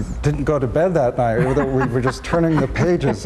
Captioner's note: laughs